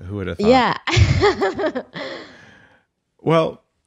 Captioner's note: laughing